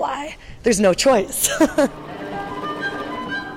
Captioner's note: laughs